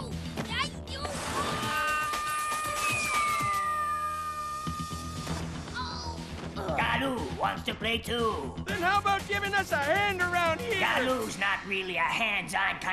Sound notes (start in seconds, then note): 0.0 stammering; 1.0 mumbling; 1.3 screaming